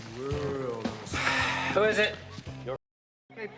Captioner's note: sighs